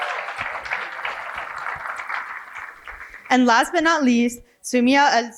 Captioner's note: cheering and applause